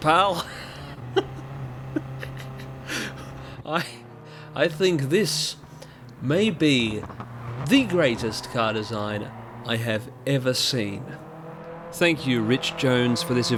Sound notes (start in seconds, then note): 0.0 stifling laughter; 1.9 laughter